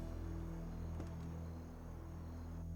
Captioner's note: car door opens